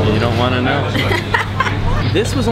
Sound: laughs

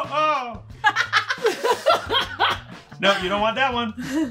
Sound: laughing

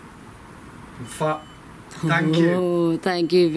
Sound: sensor beeps

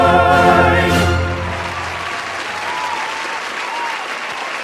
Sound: applause

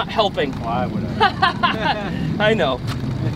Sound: both laughing

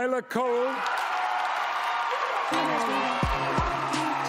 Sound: cheering

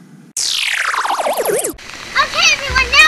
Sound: laser sound

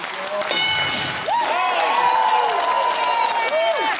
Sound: cheering

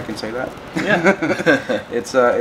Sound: laughing

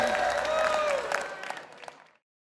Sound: applause

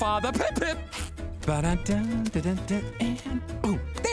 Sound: humming

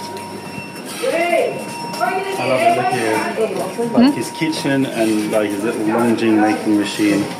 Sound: mandarin chinese

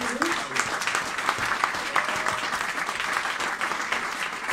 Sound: cheering and applauding

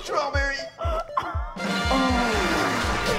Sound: laughing; siren blaring

